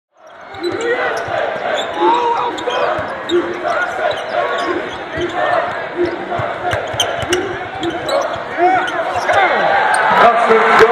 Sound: crowd repeats; crowd cheering in the background

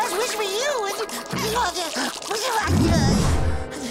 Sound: whimpering

